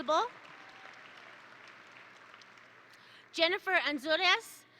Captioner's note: attendees applaud